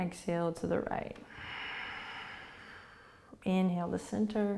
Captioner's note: exhaling